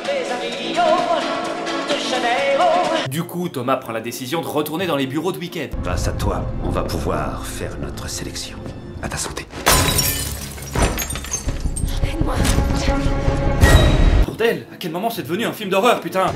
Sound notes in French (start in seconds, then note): 9.6 éclats de verre